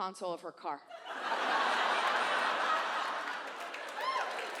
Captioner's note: audience laughs